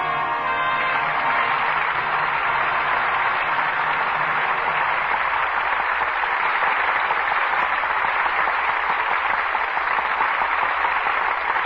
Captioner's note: applause